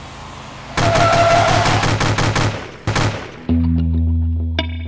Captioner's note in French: rafale de mitrailleuse